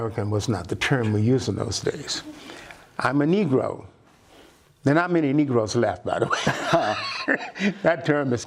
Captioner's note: laughter